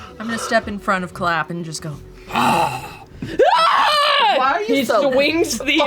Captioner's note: growls; screams